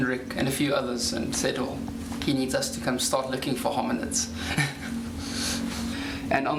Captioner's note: laughs